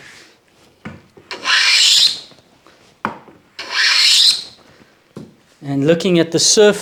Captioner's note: hand Plane Noise